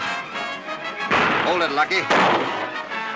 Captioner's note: gunshots